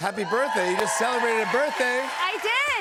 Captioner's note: cheers and applause